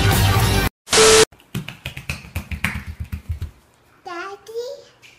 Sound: bare feet slapping on tile

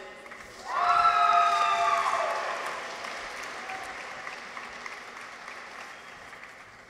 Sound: audience applauds; people cheer

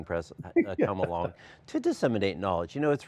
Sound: laughing

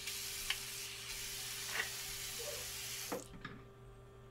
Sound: water hissing

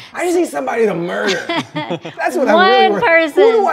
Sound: both laugh

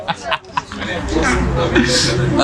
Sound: laugh

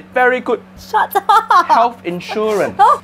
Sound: laughs

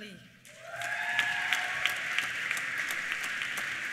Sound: applause; cheers

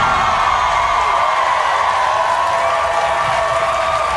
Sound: audience cheering

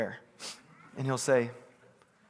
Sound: sniffing

